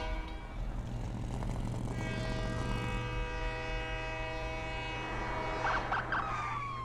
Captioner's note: flashback to train horn; train horn, truck engine whirring; train horn, police sirens